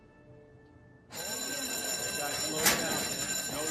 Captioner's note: bell rings